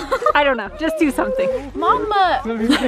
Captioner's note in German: lacht